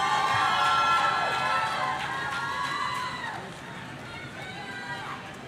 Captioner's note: audience cheering